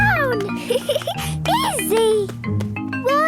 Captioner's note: giggling